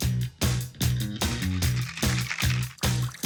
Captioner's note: rattling